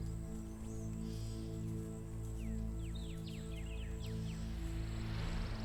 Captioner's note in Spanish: aves trinando